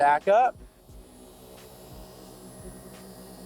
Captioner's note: machine whirring